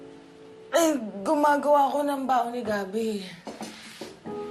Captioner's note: gloomy music playing; groans